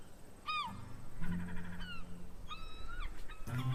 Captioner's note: gulls squawking